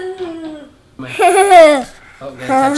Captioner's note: laughs